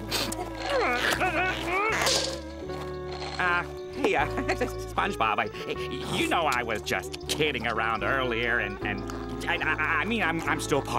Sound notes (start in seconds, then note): 2.3 grunting